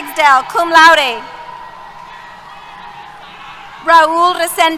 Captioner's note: cheers